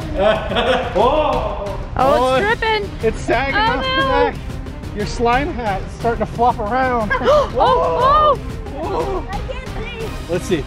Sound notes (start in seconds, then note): 7.2 gasps